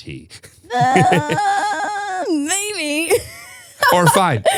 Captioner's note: laughs; laughs